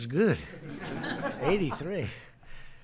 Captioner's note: laughter